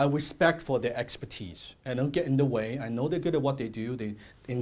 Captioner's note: none